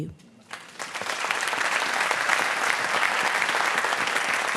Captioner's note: applause